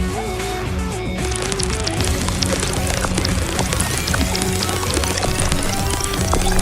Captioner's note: chirping; chirping fades